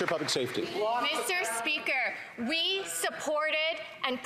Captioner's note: some Applause